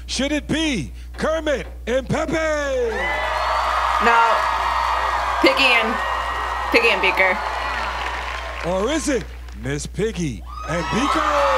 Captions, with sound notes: Should it be Kermit and Pepé? (crowd cheers) - Nope, Piggy and Beaker. - Or is it, Miss Piggy and Beaker?